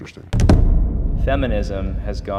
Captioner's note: intense boom